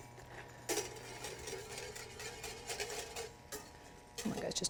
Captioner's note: metal scraping